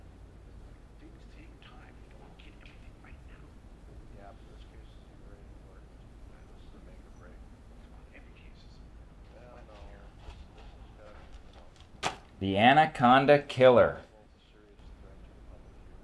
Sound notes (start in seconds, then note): 0.9 faint office chatter